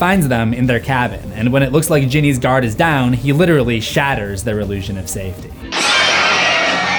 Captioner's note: shatters